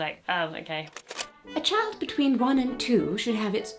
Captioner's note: tape clicking